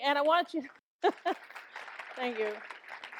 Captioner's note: laughs; audience applauds